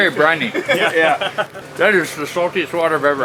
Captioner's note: laughing